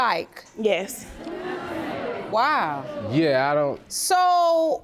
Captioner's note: audience scorning